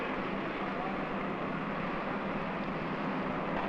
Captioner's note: machine engines rumbling